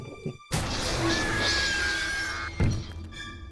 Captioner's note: glass Breaks